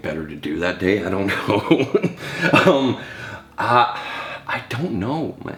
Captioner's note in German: lacht